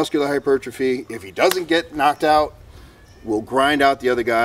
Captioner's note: hand smack!